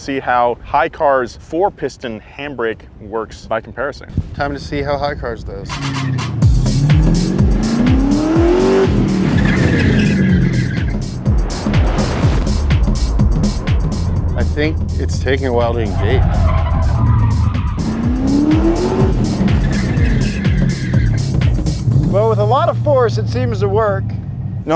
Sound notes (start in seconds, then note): 6.2 car engine revving; 6.2 techno music; 9.4 tires screeching; 17.1 tires screeching; 18.1 car engine revving; 19.6 tires screeching